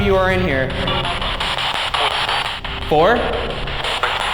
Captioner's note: distorted speech